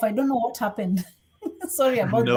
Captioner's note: chuckles